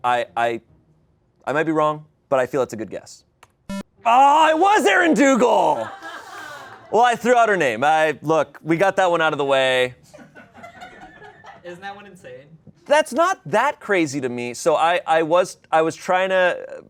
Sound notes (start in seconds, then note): 3.7 electronic beep; 5.5 audience laughing